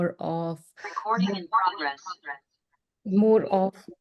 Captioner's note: electronic Voice